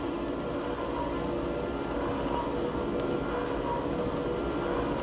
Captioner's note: mechanical humming